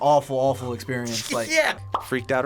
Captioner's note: laughs